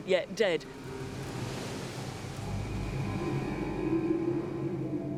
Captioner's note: waves crashing